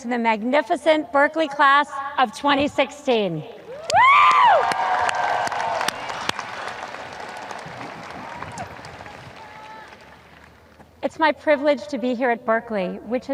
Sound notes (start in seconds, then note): 3.8 woman screams; 7.7 audience applause